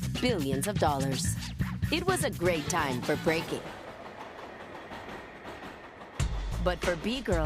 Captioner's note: subway rumble